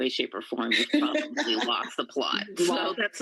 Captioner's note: laughter